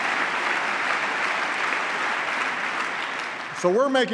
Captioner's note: applause